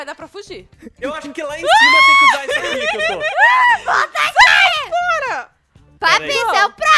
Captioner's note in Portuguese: Risadas